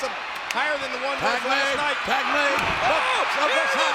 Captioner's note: hands clapping